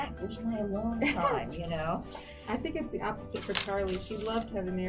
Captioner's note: laughs